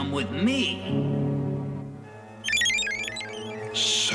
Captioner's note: beeping